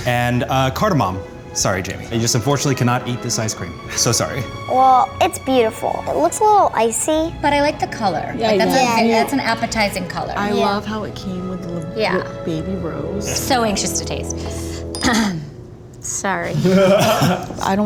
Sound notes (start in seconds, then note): 15.0 clears throat; 16.5 guys laughing